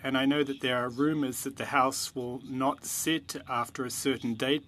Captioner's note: speaking French